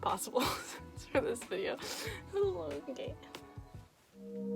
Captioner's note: gasp